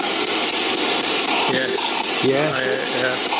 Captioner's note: SB7 chattering